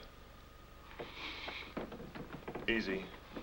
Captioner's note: Vern inhales